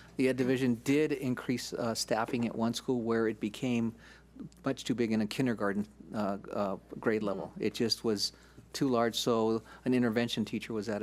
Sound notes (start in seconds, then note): none